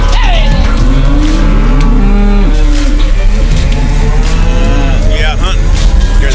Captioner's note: country instrumental music; cowboys calling; cattle mooing